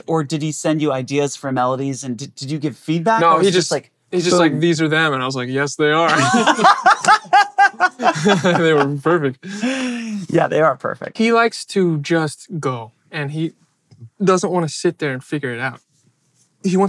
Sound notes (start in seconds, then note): 6.0 they laugh